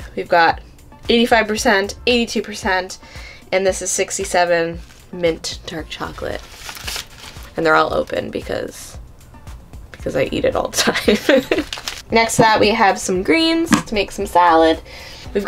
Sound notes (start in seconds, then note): 11.0 laughing